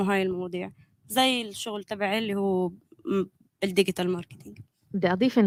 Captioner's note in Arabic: لغة أجنبية